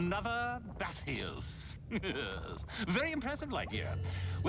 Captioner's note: chuckles